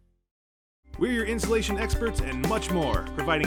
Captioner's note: voiceover